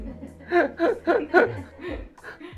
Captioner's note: laughs